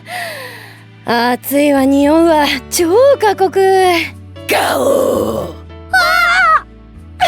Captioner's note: grrrrrrr!